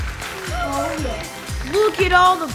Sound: kids chattering

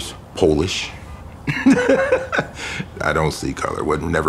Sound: laughing

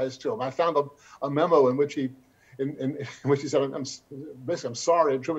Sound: chuckles

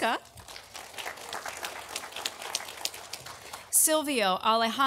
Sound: audience applauding

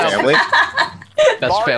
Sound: laughing

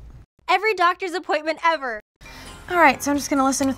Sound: voiceover

